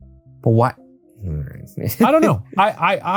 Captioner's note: chuckles